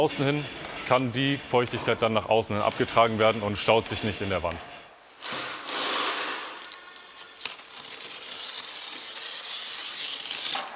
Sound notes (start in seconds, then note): 5.1 rattling